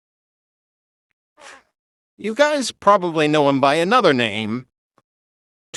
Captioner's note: sighs